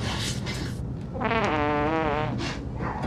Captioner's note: farting